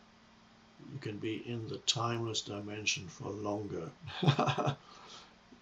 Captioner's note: chuckles